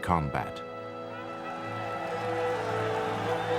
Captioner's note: crowd cheering